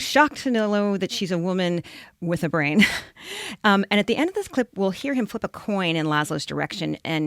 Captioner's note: chuckles